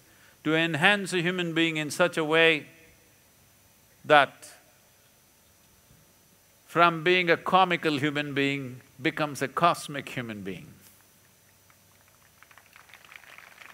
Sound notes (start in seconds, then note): 11.6 applause